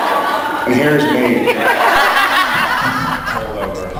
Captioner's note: laughs